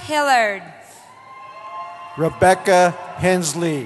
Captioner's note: cheering